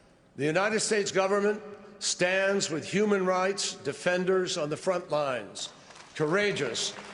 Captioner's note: applause